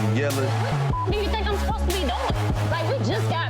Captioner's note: beep